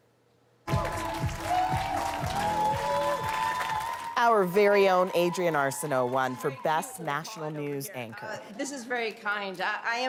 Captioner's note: cheers and Applause